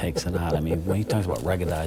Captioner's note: laughs